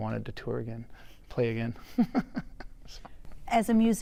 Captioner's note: chuckles